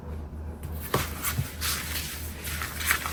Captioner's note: shuffle